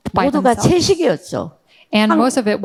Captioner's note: speaking in foreign language